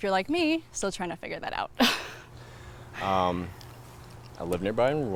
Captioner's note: laughs